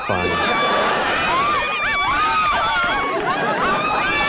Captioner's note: civilians screaming